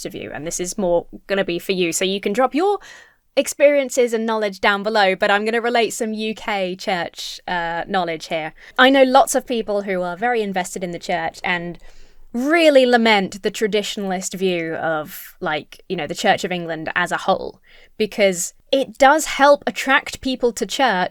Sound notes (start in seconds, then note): none